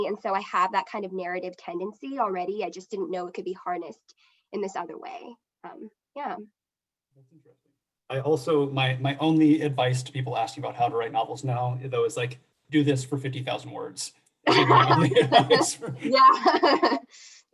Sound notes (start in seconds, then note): 14.4 laughter